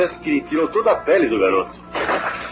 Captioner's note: gunshot